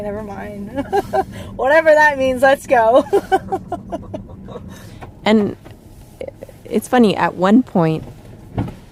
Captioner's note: laughs